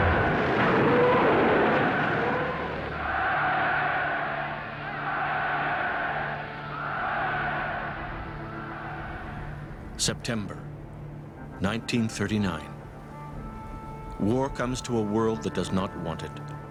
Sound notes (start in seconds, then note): 0.0 cheering; 0.0 shooting cannons; 0.0 explosion; 2.8 cheering